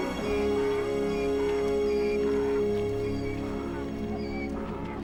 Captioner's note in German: Esel jammert